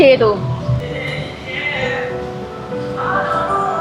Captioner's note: sips